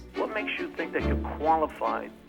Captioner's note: recorded Voice